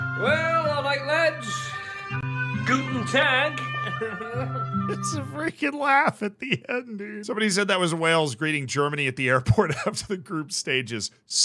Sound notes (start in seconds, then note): 3.8 weird laugh